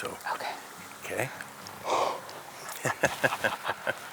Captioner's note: sighs; both laughing